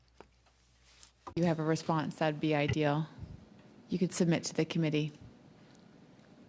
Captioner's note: speaking French